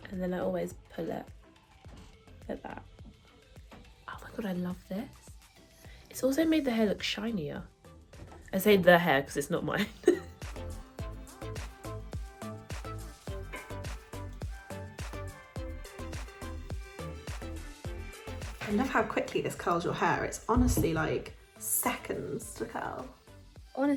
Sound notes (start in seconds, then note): 9.8 laughing; 13.9 upbeat music